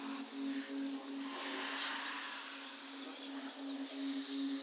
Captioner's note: voices whispering